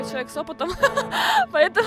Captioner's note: laughter